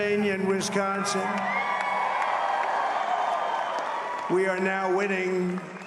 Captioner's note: applause